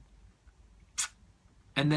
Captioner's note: smacks lips